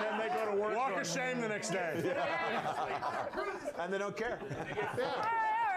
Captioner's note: laughter